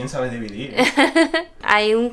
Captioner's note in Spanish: Risas